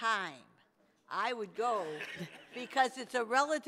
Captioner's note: people laughing